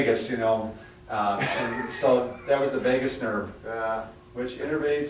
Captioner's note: laughing